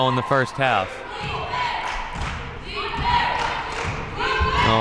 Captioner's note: cheering